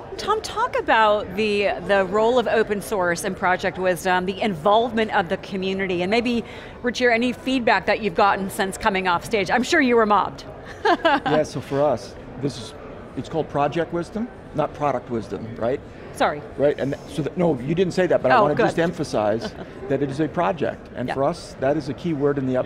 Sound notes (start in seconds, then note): 10.6 chuckles